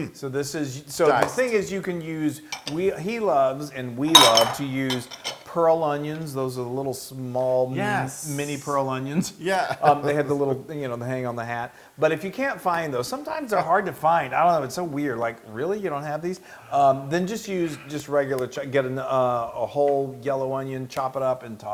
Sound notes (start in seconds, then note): 9.7 laugh